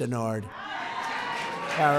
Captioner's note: applause